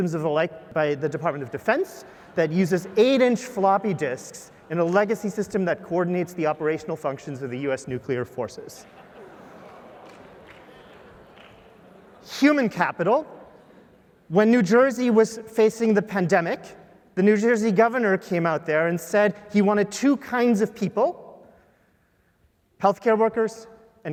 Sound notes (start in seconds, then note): 8.8 laugh; 10.0 applause